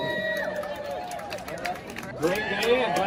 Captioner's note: people in the crowd clap and cheer